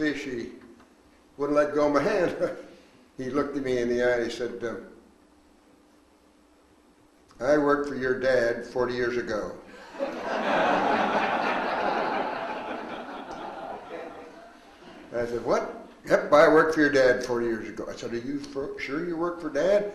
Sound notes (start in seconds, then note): 2.1 chuckles; 9.8 audience laughs